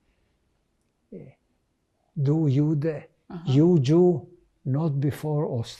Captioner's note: german